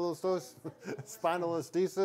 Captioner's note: laughs